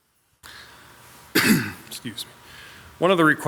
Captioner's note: clears throat